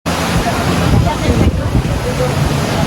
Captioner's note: wind blowing and waves rolling; distant speaking